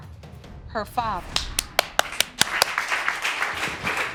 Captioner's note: audience clapping